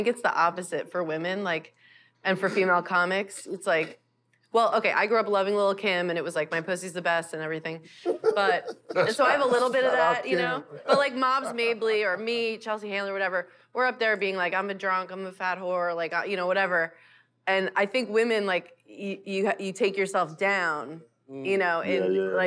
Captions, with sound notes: it's the opposite for women, like, and for female comics. It's, like, well, okay, I grew up loving Lil' Kim and it was like, "My pussy's the best" and everything. [both laugh] But--and so I've a little bit of that, you know, but like Moms Mabley or me, Chelsea Handler, whatever, we're up there being like, "I'm a drunk. I'm a fat whore," like, you know, whatever. And I think women, like, you take yourself down. You know. - She's right.